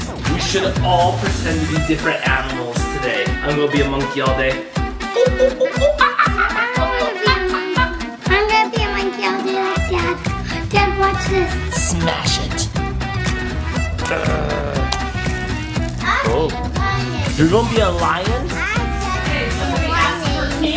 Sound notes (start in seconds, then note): 5.0 makes monkey sounds